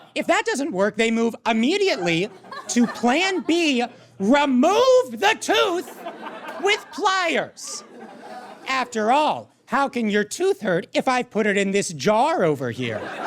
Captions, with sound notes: If that doesn't work, they move immediately to plan B: Remove the tooth with pliers! (audience laughs) After all, how can your tooth hurt if I've put it in this jar over here?